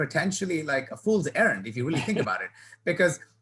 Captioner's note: laughing